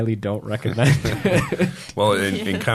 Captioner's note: laughing